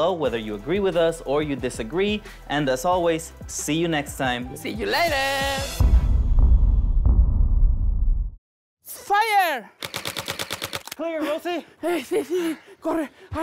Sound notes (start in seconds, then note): 6.3 drums; 9.8 airsoft guns firing